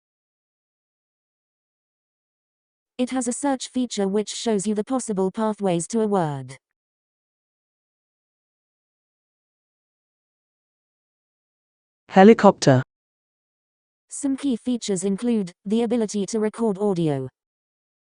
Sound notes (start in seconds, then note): 11.7 Proloquo2Go voice